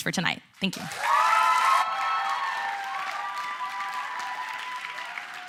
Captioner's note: applause, cheering